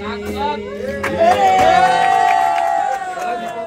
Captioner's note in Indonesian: tepuk tangan